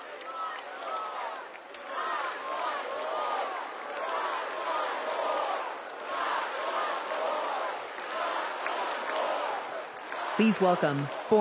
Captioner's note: crowd chanting